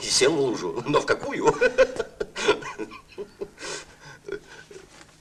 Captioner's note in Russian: смех